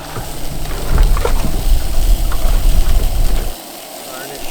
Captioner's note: pan sizzling